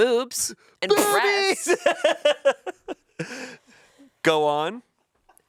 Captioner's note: laughs